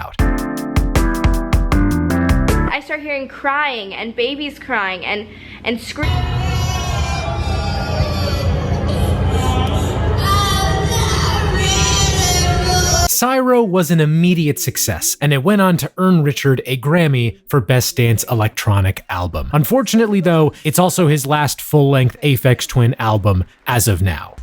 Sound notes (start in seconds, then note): 6.0 background cries